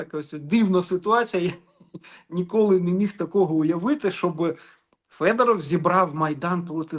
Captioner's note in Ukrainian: сопіння